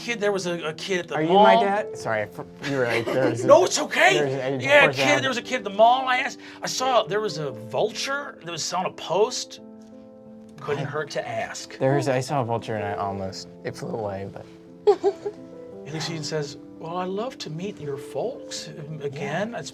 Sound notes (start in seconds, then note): 14.8 laughing